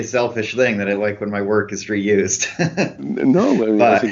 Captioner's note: laughs